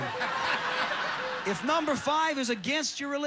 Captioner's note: audience laughing